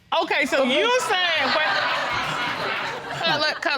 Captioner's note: laughter